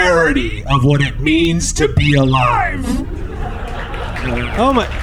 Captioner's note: uproarious applause